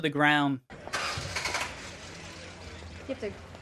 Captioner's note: car whining